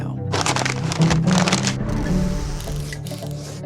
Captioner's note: paper crumpling